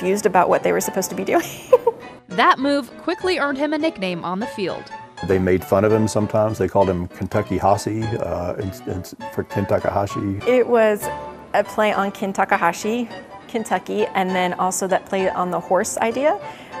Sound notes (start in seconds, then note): 1.4 laughs